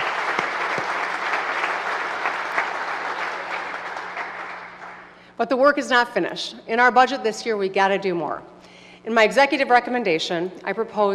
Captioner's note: applause